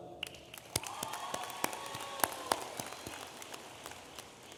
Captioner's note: audience applauding